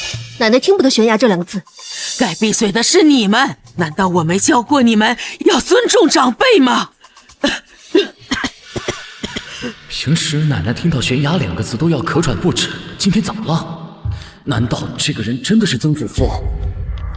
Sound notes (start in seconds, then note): 7.3 cough cough cough